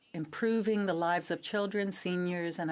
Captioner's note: speaking in French